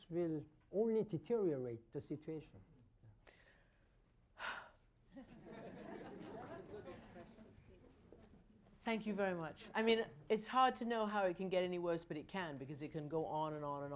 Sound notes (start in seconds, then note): 3.2 exhales; 5.1 laughter